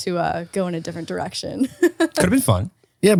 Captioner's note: laughing